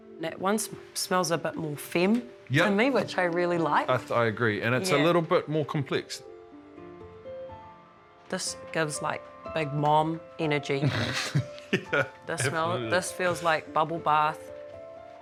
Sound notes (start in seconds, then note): 10.8 laughs